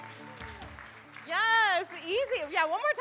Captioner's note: audience applauding